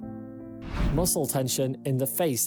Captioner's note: screen swishes